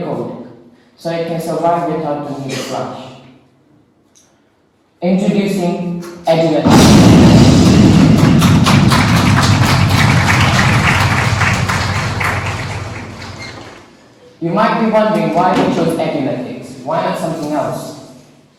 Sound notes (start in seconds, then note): 7.9 clapping